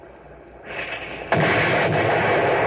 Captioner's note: gunshots